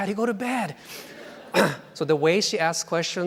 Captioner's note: laughing